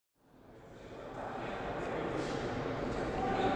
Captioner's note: audience murmuring